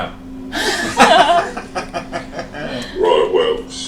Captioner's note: all laugh